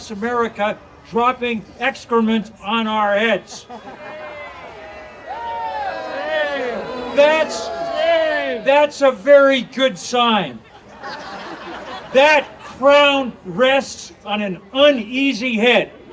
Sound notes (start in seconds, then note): 3.8 audience cheering; 10.6 audience laughing